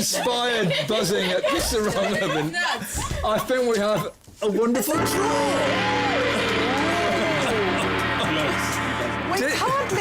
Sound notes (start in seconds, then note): 7.3 chuckles